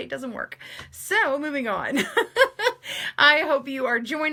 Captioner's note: laughs